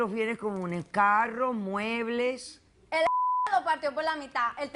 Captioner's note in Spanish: Bip